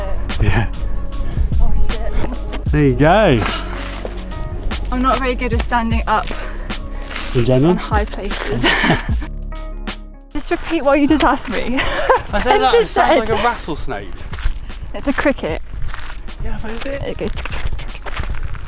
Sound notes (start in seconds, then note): 11.6 laughs